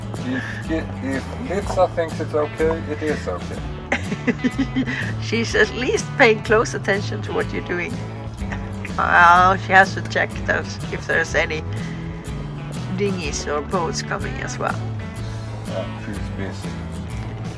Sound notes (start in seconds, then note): 3.8 laughter